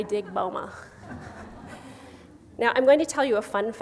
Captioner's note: gentle chuckling